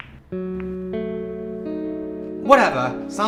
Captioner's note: balls clattering, wah wah music